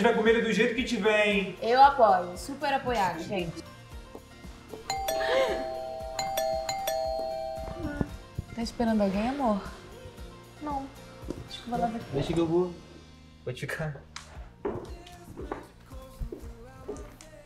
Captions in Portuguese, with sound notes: - a gente vai comer do jeito que tiver, hein? - Eu apoio. Super apoiado, gente! (CAMPAINHA TOCANDO) Está esperando alguém, amor? Não. - Acho que vou lá ver quem é. - Deixa que eu vou. Pode ficar.